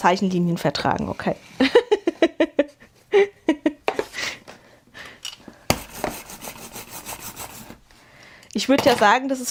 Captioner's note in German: gelächter